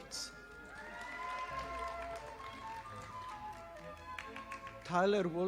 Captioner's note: audience applauding